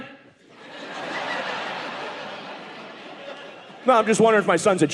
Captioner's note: audience laughing